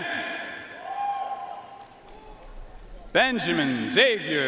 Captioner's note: audience cheering and applauding